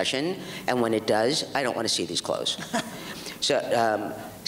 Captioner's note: laughs